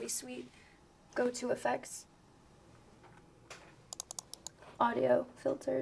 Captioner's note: mouse clicks